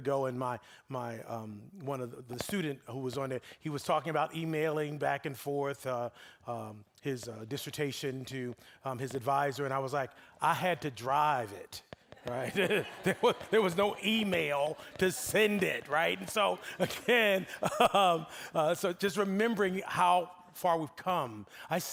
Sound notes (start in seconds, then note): 12.6 audience laughing; 16.3 laughing